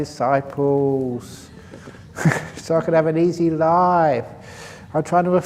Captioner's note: laughs